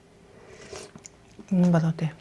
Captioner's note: slurp